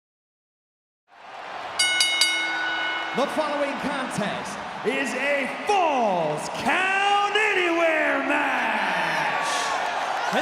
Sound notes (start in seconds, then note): 1.3 crowd cheering; 1.8 bell dinging